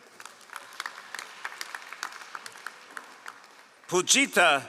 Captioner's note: all applauding